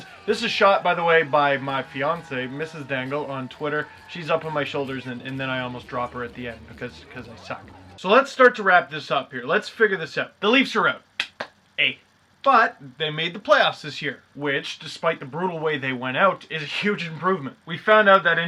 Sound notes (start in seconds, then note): 11.2 clap clap